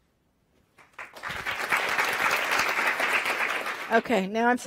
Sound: audience applauds

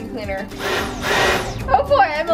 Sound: vacuum sucking

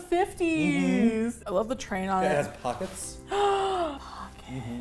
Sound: gasps; whispers

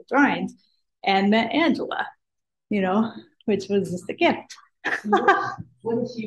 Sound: laughs

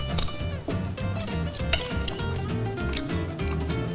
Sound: chewing

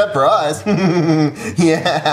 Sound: laughs

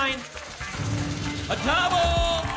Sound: booms

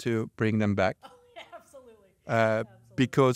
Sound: laughs

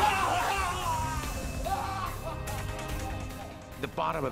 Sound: yelling

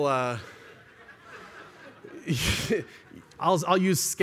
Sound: laughter

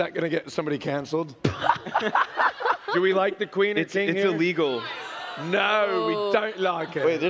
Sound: laughs

